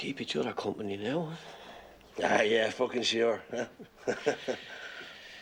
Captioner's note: Risas